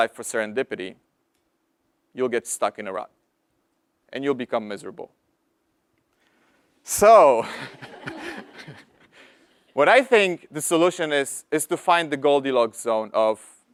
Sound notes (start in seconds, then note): 7.5 laugh